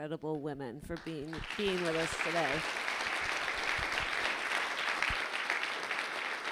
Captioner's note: audience laughing